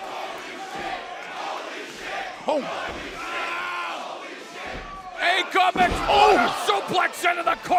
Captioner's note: fans chanting